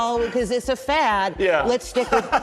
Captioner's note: laughs